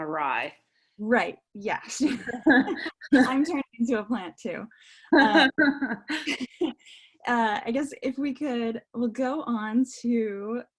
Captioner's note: laughing